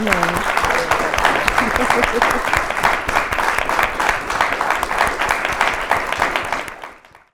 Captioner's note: applause